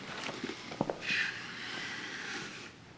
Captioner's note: sighs